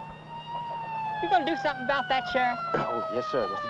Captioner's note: siren wailing